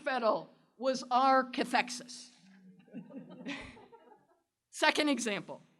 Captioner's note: non-english